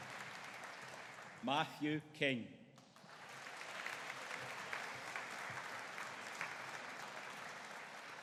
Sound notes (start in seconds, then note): 2.8 audience applauding